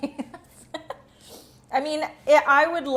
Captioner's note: laughs